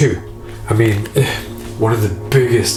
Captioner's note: scoffs